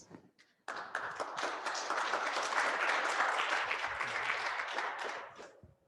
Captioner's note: classroom audience applauding